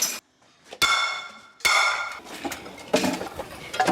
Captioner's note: pots clang